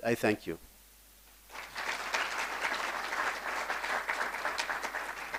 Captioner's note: applause